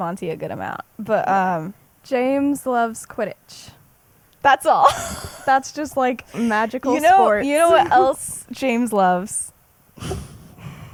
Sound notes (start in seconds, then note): 6.2 laughs; 9.8 laughs